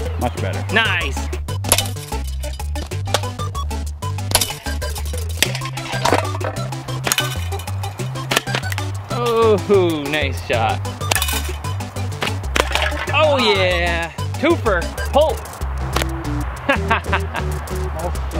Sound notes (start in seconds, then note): 1.6 slingshot firing; 11.4 slingshot strikes